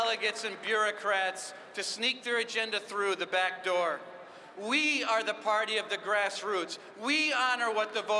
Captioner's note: applause